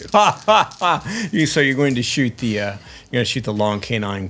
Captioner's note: laughter